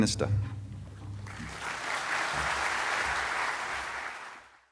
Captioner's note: audience clapping